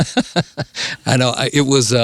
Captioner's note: laughs